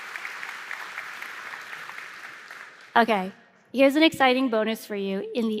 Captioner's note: applause